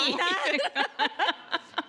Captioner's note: laughing